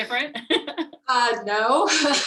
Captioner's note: laughing